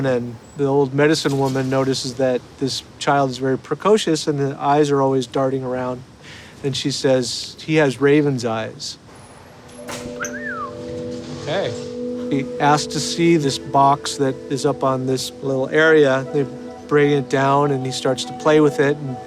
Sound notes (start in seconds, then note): 9.9 whistles